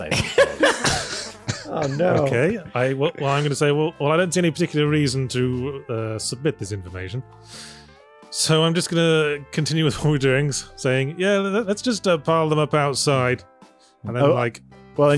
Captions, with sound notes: I don't know. [laughter] Oh no. Well, I'm going to say, well, I don't see any particular reason to submit this information. So I'm just going to continue with what we're doing, saying, yeah, let's just pile them up outside. And they're like...